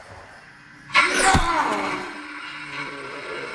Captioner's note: body thuds; Paul groaning